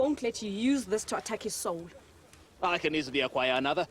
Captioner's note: speaking quickly